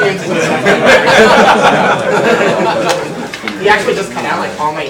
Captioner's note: audience laughs